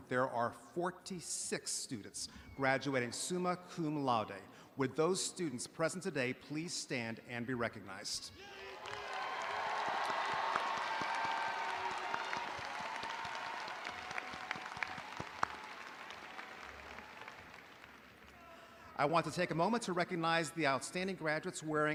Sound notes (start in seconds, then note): 8.7 audience applauding